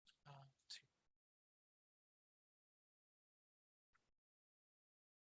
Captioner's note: speaking faintly